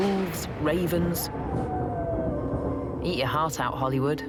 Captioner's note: howling